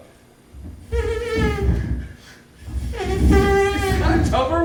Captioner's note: humming